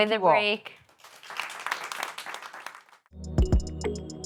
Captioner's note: applause